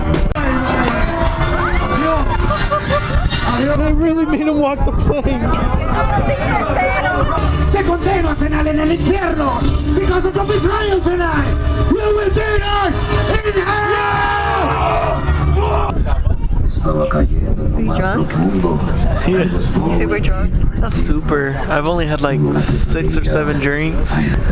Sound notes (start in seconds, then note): 0.0 crowd cheering; 7.4 enthusiastic narration in Spanish